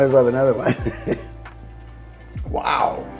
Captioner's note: laughs